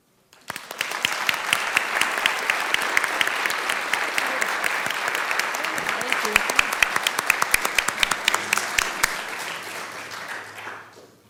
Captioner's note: clapping